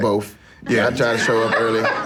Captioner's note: everyone laughing